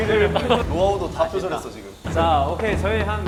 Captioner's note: meow